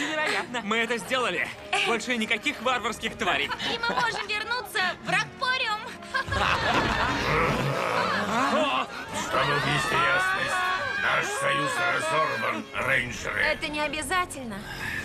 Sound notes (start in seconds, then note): 7.1 growls